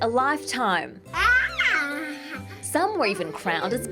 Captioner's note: baby laughs